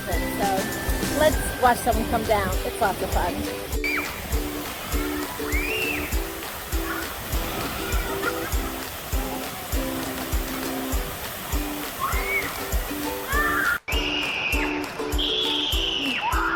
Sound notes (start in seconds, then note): 4.2 bright upbeat music; 4.2 child screams